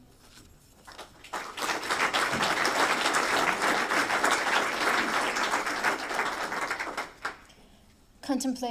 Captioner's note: applause